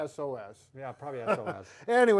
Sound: chuckles

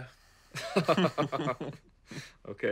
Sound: both laughing

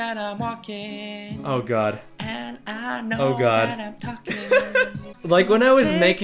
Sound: laughs

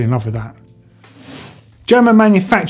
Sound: bike chain whirring

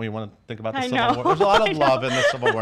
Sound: laughs

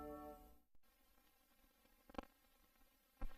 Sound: silence

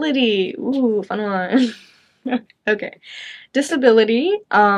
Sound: chuckles

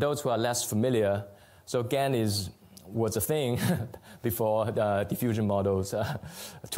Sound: laughs

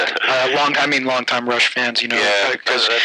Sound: laughter

